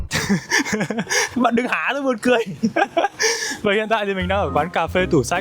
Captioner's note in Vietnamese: tiếng cười